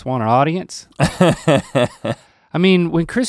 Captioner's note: laughs